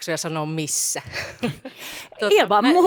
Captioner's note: laughter